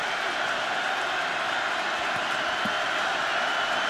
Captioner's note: pa announcement